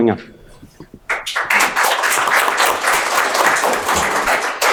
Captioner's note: audience applauding